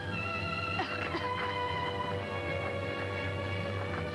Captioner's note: Joan coughs